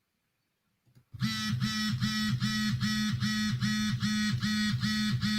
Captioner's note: phone vibrating